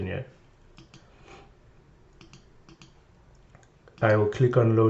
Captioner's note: mouse clickings